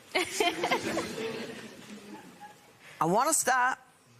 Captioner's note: laughter